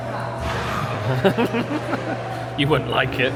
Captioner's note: laughs